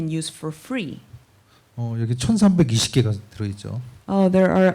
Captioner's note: speaking korean